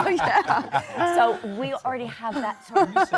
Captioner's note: audience laughs